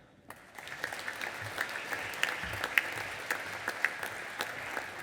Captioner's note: audience applauding